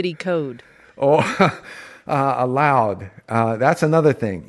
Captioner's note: laughs